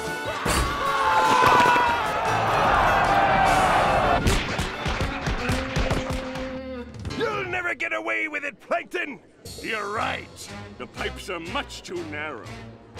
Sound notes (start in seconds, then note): 0.2 screaming; 4.4 thudding